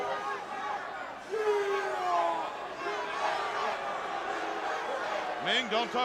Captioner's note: crowd chatter